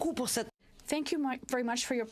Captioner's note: speaking French